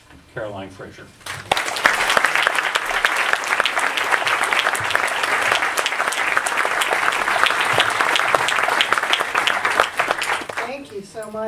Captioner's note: audience Applauds